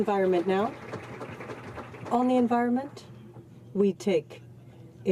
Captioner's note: applause